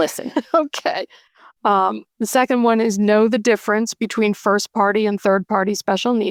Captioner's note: laughter